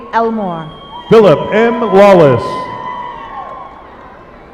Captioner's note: applause